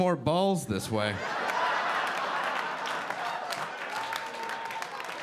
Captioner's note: audience laughing